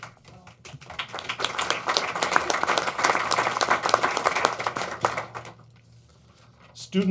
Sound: applause

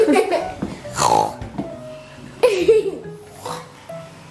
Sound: oinking

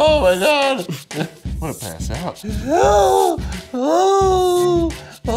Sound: whimpering

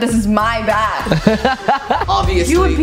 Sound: laughs

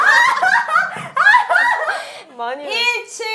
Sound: laughing

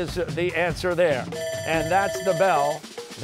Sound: bell ringing

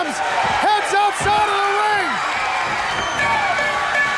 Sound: bell ringing

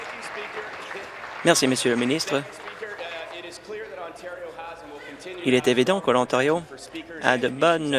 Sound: some Applause

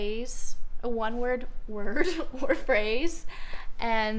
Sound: laughs

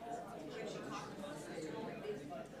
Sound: speaks faintly

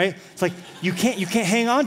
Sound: laughter

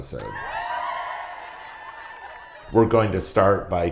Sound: cheering

